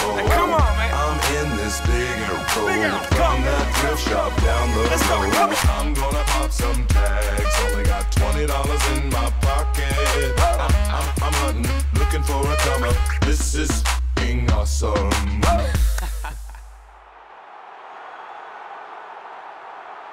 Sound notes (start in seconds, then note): 2.1 warbling; 15.4 person laughs; 17.0 people cheering